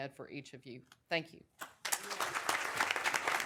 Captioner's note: applause